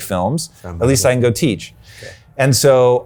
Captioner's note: murmuring